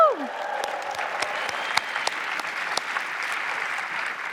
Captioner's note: applause